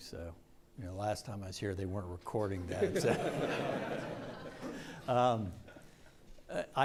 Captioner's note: audience laughs